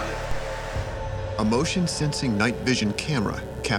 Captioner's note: voiceover